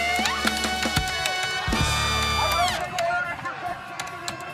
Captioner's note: keyboard clattering; crowd chanting